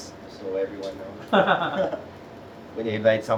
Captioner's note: laughs